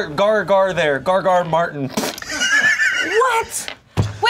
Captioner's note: laughs